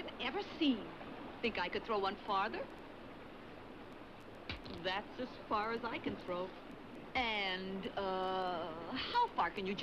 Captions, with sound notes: Think I could throw one farther? (rock clacks) That's as far as I can throw. And, uh, how far can you jump with both feet?